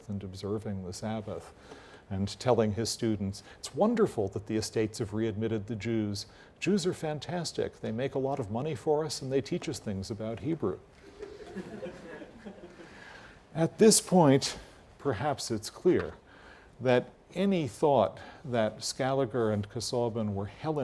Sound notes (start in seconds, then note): 11.0 laugh